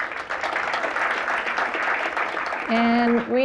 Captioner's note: applause